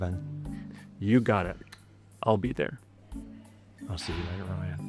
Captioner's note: click